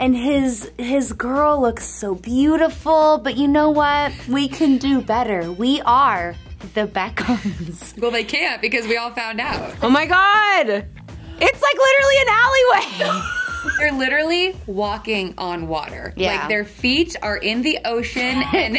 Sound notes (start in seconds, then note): 7.2 laughing; 12.7 laughing